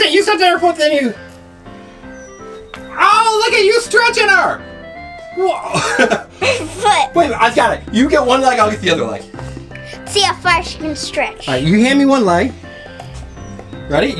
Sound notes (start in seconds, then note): 5.4 laughs